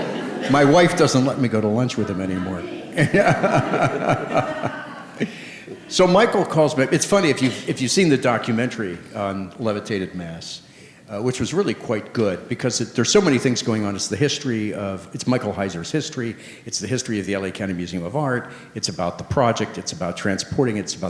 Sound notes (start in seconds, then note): 2.0 all laughing